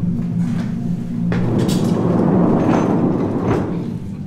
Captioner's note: sound of sliding door